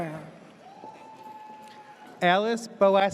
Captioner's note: audience cheers